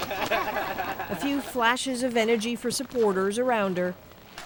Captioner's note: laughter